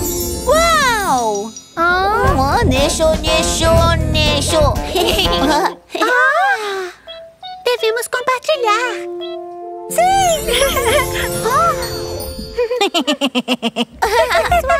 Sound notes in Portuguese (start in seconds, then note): 4.9 Risos; 10.4 Risos